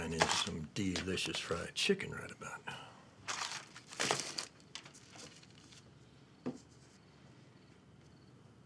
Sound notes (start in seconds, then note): 3.2 paper rustles